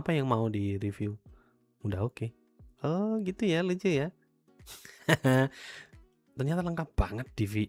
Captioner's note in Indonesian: tertawa